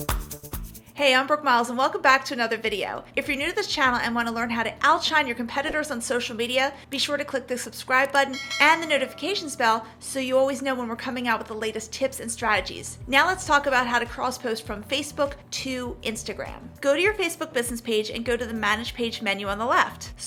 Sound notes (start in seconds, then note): 8.3 notification bell rings